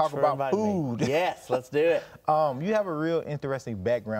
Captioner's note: laughs